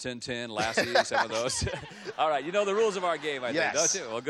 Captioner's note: laughs